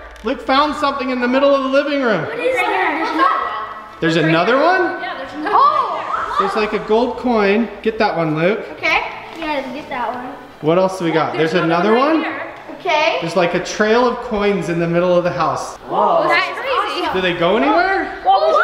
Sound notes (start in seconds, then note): 2.3 children's Exclamations; 15.8 children Talking